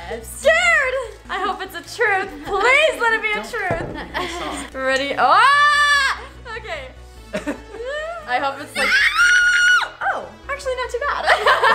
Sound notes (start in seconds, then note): 5.5 screams; 7.3 laughs; 11.5 laughs